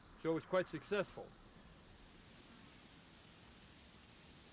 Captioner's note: birds chirping